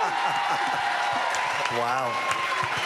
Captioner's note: cheering and applause; laughing